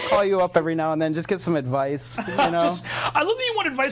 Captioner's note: laughing